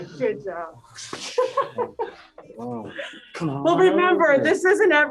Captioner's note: laughs